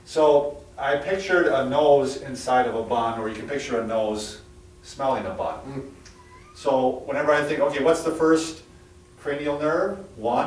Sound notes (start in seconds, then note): 5.9 chuckles